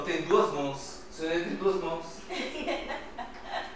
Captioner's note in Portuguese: risos